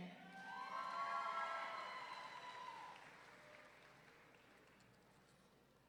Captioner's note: audience cheering and clapping